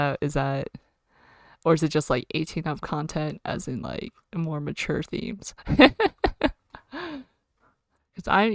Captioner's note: laughs